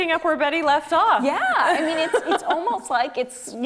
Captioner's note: both laughing